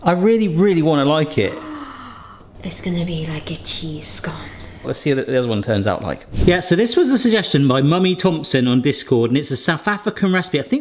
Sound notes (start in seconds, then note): 1.5 gasps